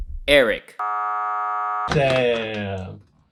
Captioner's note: buzzing sound